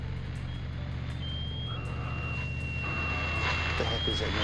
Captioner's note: alarm